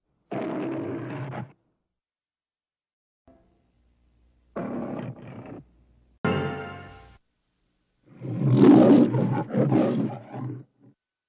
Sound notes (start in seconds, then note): 0.3 Leo the Lion roars; 4.6 Leo the Lion roaring; 8.1 Leo the Lion roars